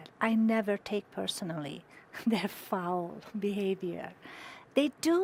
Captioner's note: chuckling